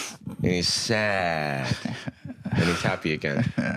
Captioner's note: chuckling